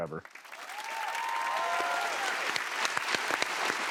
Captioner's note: cheers and applause